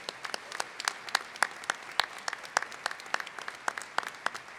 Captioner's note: applause